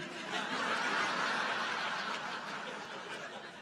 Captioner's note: audience laughs